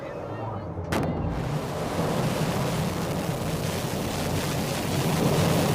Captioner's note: intense rumbling